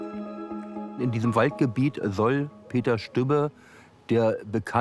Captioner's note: in German